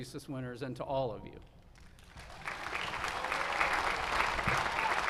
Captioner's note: applause